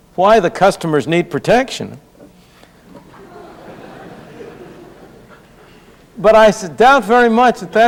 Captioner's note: laughter